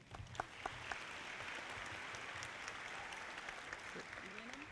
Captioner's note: audience clapping